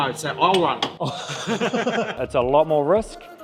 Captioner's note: mechanics laugh